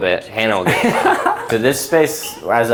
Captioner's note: laughs